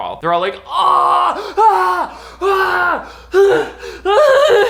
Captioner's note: shouting